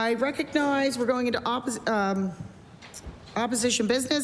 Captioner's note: none